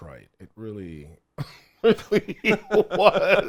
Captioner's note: both laugh